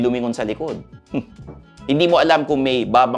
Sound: scoffs

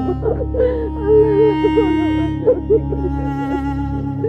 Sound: crying and pleading

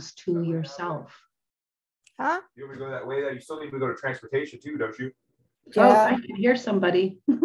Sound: laughs

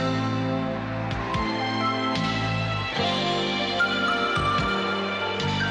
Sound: applause

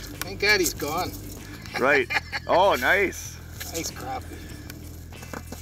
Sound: laughing

